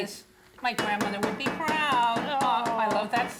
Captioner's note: metal spoon hitting pot